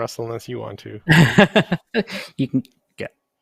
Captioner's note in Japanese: 笑い